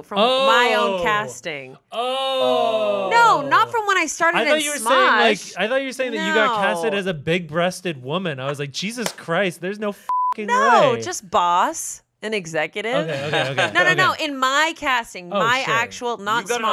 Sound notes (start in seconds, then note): 10.0 beep